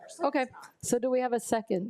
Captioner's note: speaks faintly